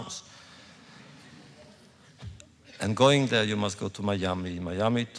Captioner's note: laughter